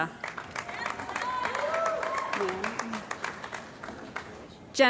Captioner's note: cheering & Applause